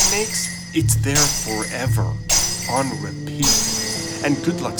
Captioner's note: glass Breaking